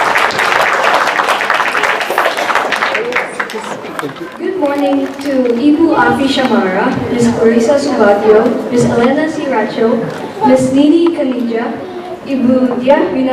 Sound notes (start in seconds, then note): 0.0 applause